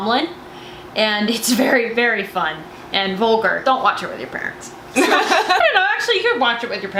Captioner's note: laughter